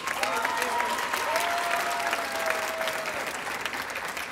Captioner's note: audience applauding